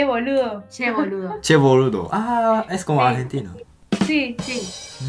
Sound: Spanish

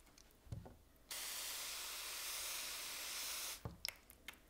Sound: sprayer fizzing

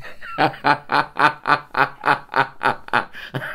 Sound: laughs in pride

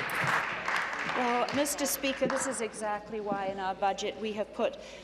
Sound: applause

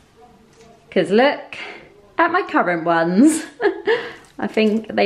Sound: laughing

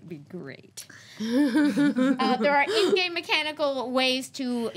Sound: laughing

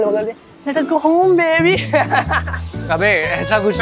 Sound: laughing

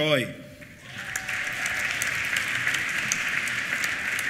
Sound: applause; cheers

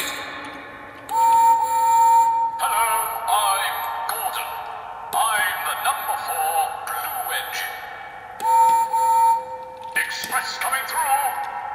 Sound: whistle blows

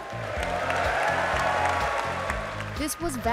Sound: crowd applauds

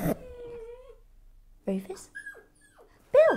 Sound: dog whimpers

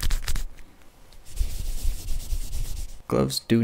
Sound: sticky crinkling sounds; soft swooshing sounds

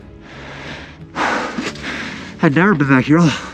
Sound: sighing

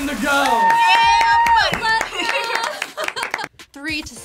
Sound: laughs

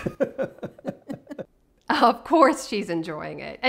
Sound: laughing

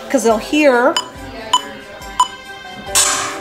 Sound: beeping; slamming

